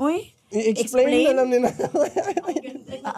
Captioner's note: chuckles